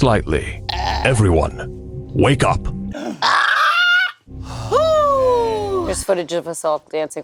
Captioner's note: shrieks